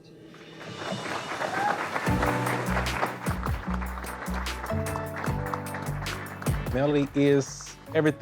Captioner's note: applause